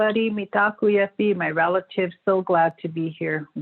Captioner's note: non-english speech